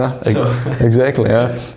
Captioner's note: laughter